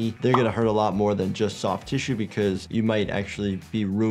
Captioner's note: none